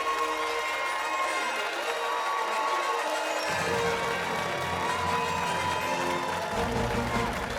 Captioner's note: fanfare; cheers and applause